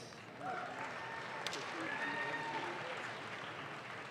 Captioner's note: audience claps